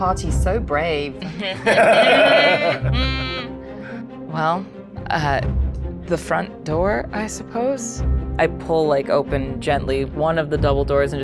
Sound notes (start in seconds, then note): 1.2 group laughs